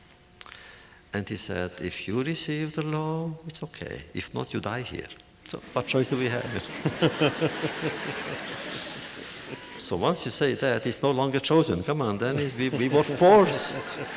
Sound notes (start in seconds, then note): 5.6 audience laughter